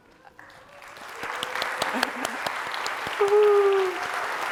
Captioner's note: applause